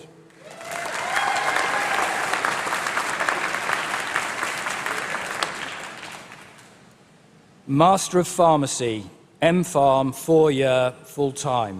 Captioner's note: applause